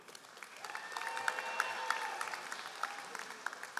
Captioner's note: all applauding